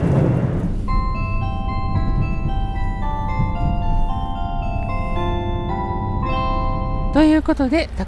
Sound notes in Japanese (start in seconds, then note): 0.8 jr四国チャイムが流れています